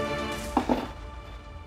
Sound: clanging

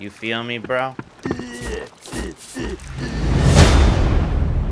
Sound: grunting

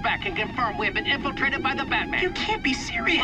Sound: alarm blaring

